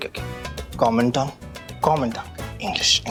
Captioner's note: speaking Spanish